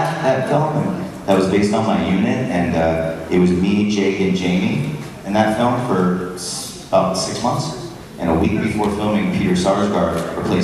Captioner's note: crowd awww